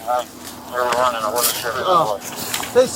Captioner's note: radio chatter